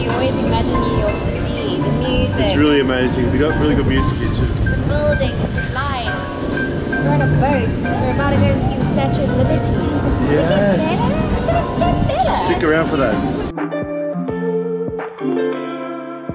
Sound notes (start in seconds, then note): 6.3 air whooshing; 13.4 rhythmic music